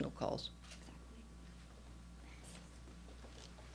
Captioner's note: whispers